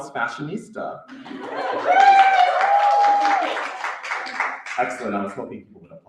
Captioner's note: cheering